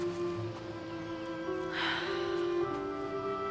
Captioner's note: sighs